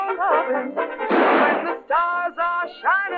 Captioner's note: gunshot